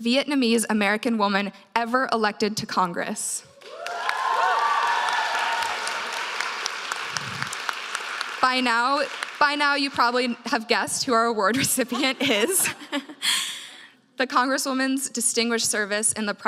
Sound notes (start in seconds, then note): 3.6 audience cheers; 11.9 laughs